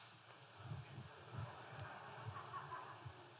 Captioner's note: laughter